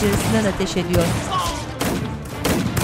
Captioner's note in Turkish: İnleme sesi